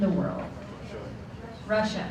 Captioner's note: murmurs from audience